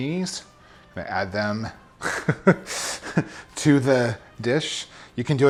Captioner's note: laughing